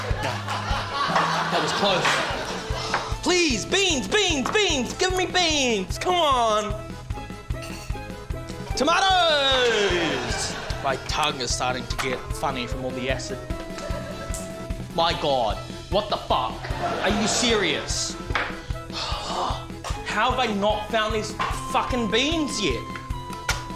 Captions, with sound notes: No. That was close. (SIGHS) Please! Beans, beans, beans! Give me beans! Come on. Tomatoes! (LAUGHTER) My tongue is starting to get funny from all the acid. My God. What the fuck? Are you serious? (SIGHS) How have I not found these fuckin' beans yet?